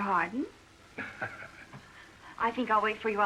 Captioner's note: laughs